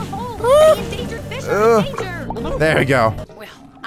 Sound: squeals

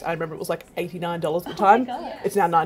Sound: chuckles

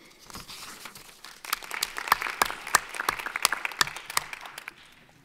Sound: audience applauding

